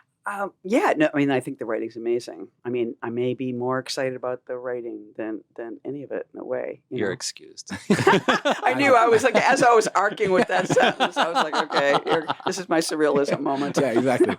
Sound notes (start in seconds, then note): 8.3 all laughing